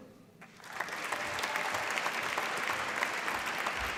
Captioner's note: applause